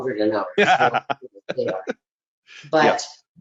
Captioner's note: laughing